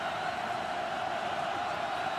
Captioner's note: crowd cheering